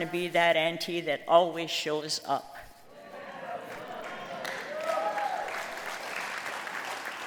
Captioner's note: applause